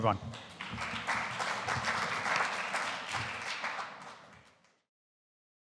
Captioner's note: audience applauding